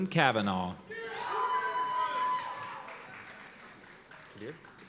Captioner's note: cheers and applause